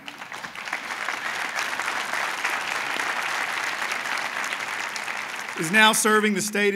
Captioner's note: applause